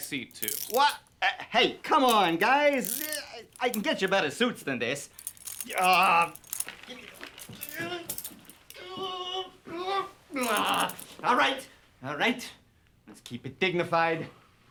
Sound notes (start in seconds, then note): 6.9 Jewels groaning; 6.9 cuffs jangling